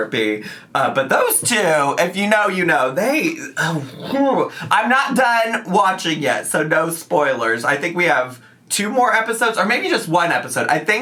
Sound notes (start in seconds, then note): 3.6 groans